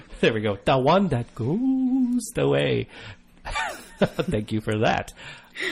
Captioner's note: laugh